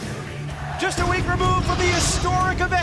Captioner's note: crowd chatter